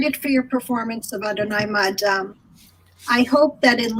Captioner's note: speaking in foreign language